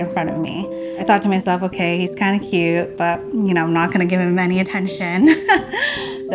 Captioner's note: laughs